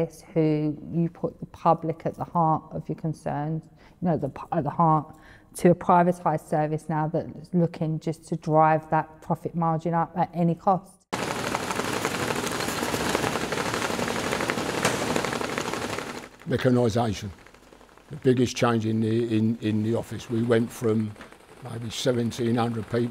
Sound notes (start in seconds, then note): 12.4 machine clattering